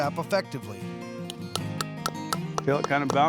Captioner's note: hammering